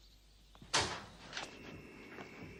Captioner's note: noise of backdoor being opened